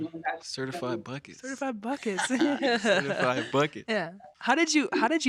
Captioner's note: all chuckling